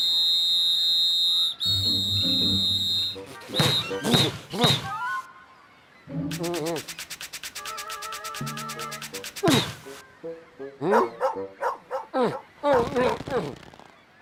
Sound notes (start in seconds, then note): 10.8 barking